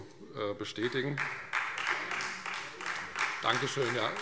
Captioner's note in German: Beifall Freie Demokraten - Zurufe SPD